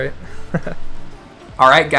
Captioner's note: laughs